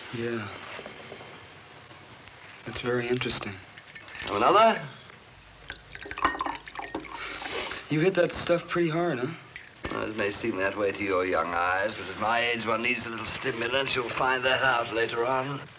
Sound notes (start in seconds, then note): 5.5 drink being poured